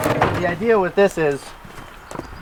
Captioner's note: root washer stops